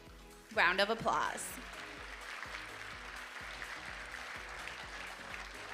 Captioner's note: audience applauding